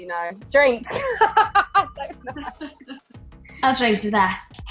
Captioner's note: laughs